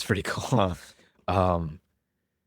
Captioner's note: laughs